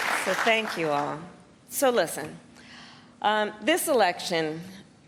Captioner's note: applause